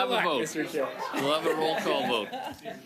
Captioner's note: laughter